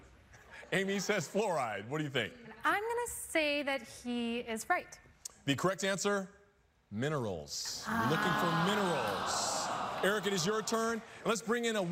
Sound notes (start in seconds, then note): 7.8 audience groaning